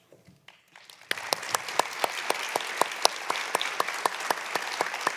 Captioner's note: applause